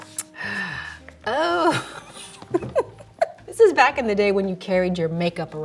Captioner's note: laughing